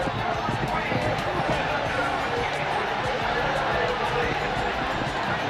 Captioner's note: cheering